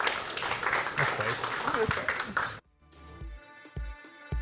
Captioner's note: applause